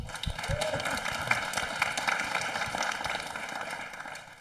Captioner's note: audience applauding